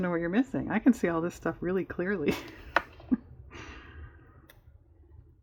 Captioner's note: laughs